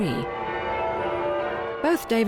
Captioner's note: bells ringing